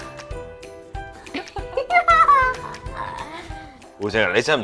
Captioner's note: Mrs Wu and Jane laugh